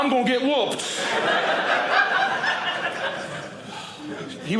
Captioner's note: audience laughing